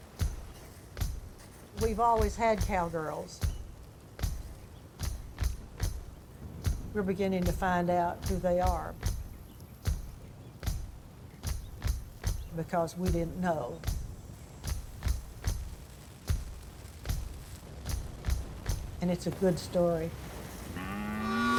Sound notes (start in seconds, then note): 14.8 fire crackling; 20.6 cows lowing